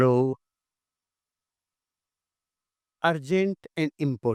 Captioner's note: silence